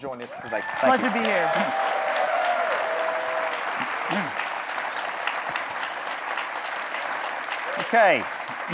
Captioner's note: audience clapping, cheering